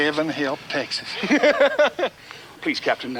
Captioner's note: deputy laughs